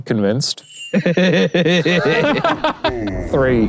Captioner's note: both laughing